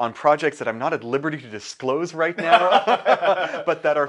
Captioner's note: both laugh